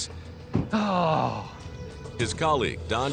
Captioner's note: sighing